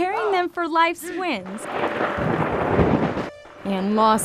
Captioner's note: whistle